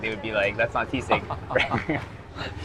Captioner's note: chuckles